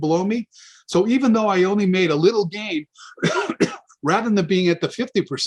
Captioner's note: cough